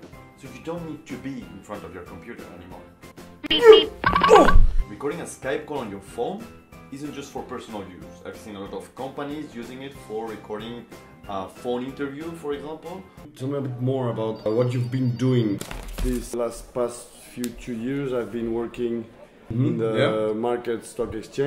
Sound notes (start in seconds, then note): 3.4 beep beep sound